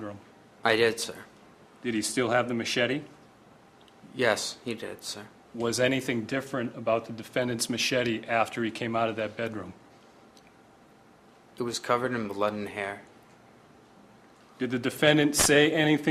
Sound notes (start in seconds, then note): none